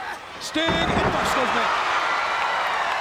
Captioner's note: body slamming; crowd screaming